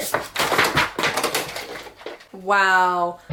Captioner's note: sounds of book + decorations falling